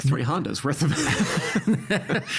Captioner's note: both laughing